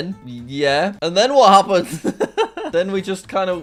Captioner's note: laughs